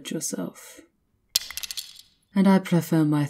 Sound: the holy symbol slips from your hand and falls, clattering to the floor

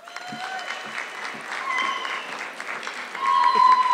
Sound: audience clapping

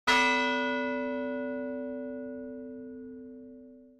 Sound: bell tolls

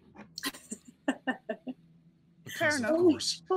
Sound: laughing

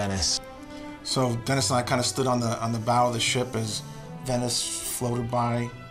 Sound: none

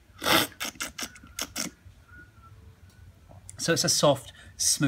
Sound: slurping

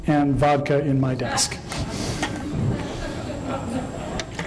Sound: laughter

